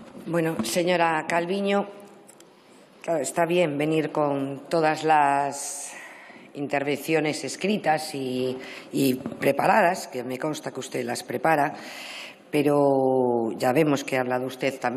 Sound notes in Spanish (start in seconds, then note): none